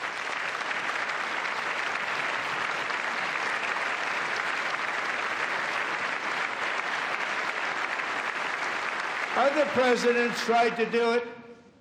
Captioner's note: applause